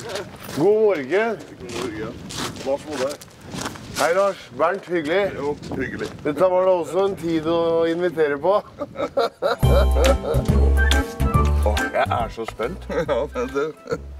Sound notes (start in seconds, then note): 8.6 giggles